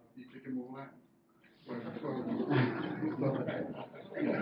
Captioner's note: laughing